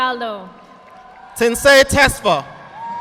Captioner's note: audience applauding